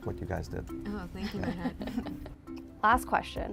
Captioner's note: laughs